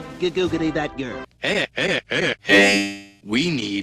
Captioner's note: lowering in pitch